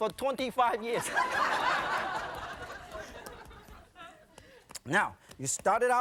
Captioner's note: audience laughing